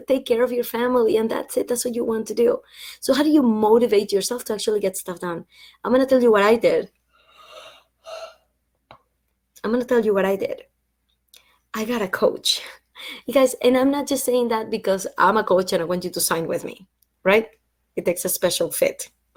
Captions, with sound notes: take care of your family and that's it. That's what you want to do. So how do you motivate yourself to actually get stuff done? I'm going to tell you what I did. [Yawn] I'm going to tell you what I did. I got a coach, you guys, and I'm not just saying that because I'm a coach and I want you to sign with me, right? It takes a special fit.